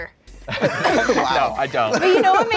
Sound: laughs

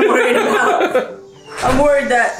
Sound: giggling

